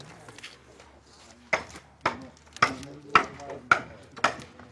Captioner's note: knocking, low voices